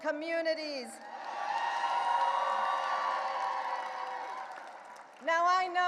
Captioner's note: audience cheering and applauding